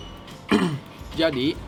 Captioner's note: coughing nervously